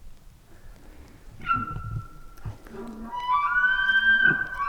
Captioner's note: bull bark bugling